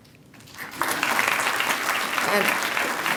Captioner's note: applause